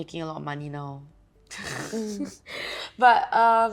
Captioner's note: laughing